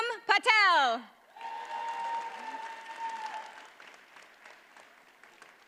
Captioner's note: audience cheers and applauds